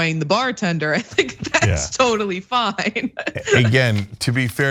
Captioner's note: laugh